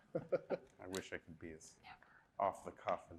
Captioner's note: people chuckling